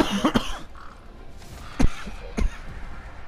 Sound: sorry for the excessive coughing

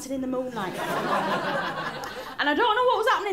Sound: laughter

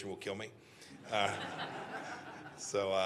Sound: laughter

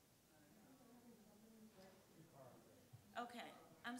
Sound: woman talking off mic

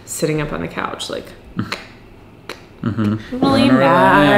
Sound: clicks tongue

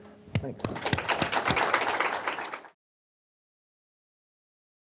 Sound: audience applauding

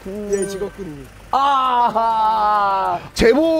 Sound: screaming

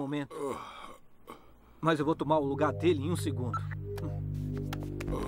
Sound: normal voice

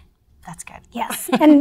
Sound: laughs

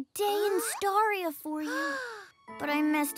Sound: gasps

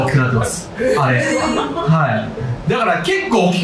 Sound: crowd

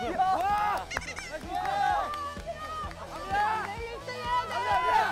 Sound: sprinting

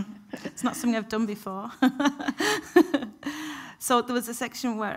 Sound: laughs

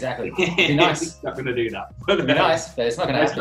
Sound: laughs

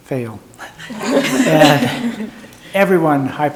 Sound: people laughing

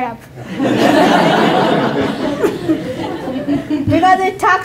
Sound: laughter

